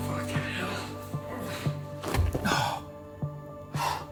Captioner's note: grunting